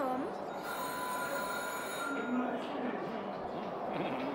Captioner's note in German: Klingel